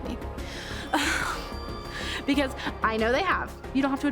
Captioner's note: laughs